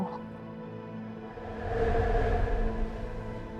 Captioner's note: eerie sounds